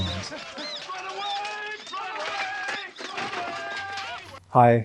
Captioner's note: sounds of melee and squeaking